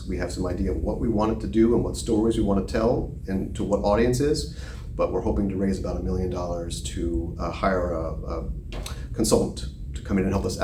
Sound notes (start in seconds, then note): none